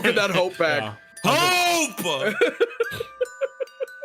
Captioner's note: laughs